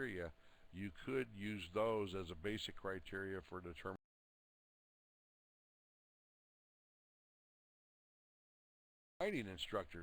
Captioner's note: audio drops